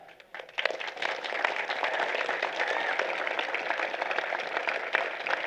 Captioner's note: applause